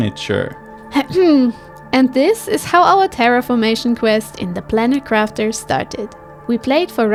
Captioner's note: cough